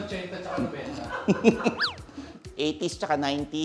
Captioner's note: chuckles